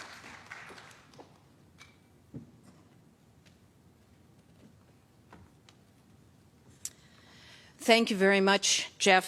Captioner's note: applause